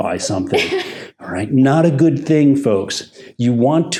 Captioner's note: laughs